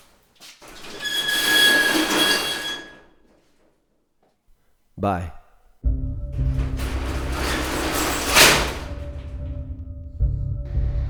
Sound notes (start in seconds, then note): 0.8 door screeching; 5.8 soft foreboding music